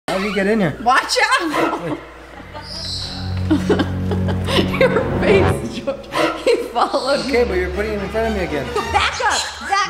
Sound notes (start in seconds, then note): 2.5 bird tweeting; 3.7 laughing; 5.7 horror music